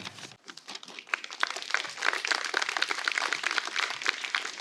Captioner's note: applause